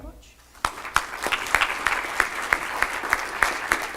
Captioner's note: applause